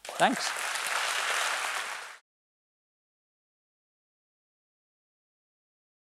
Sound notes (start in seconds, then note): 0.0 applause